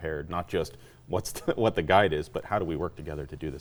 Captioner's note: chuckling